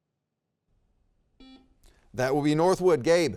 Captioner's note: buzzer beeps